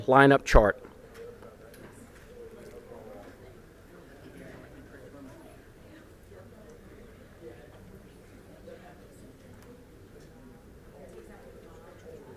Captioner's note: group chatter